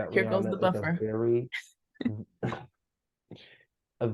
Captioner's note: laughs